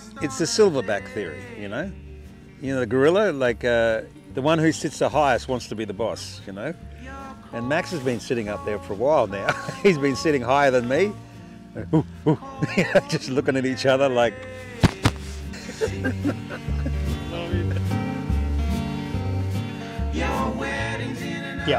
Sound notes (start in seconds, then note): 14.8 bumping from chest; 15.2 laughing